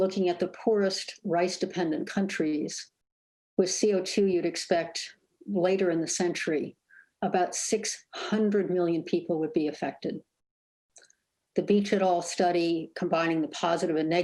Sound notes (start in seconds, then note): none